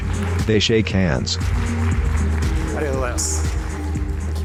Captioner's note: applause